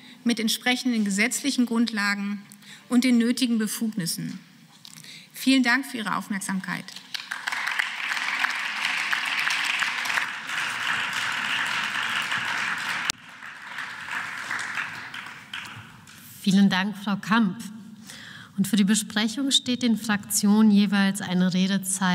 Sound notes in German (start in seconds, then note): 16.3 Beifall